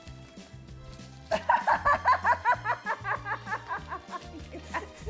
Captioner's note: laughing